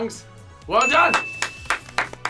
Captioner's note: upbeat music; bell dings; all clapping